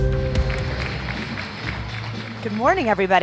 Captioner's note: audience applauding